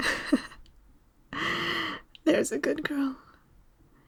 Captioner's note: laugh